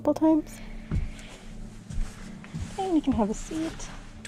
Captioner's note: footsteps shuffle